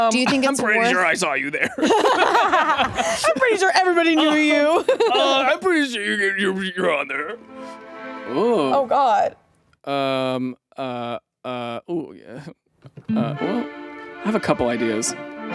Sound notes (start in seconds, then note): 1.6 both laugh